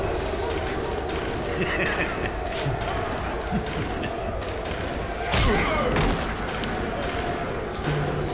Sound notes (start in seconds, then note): 1.2 Alfie laughs